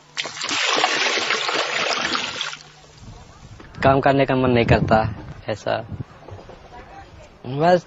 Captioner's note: foreign language